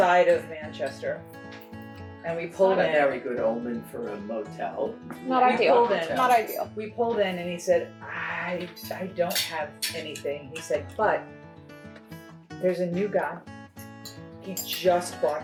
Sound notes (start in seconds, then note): none